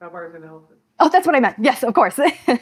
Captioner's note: laughs